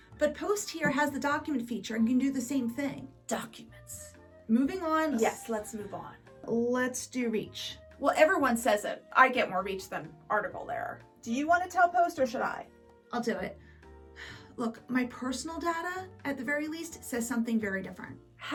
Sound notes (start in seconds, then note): 14.2 sighs deeply